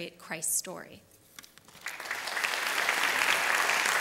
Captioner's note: applause